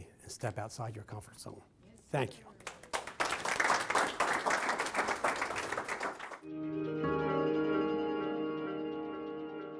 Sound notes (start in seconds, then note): 2.6 applause